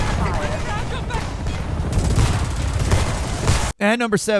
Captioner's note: guns blasting